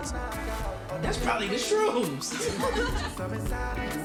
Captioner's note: laughing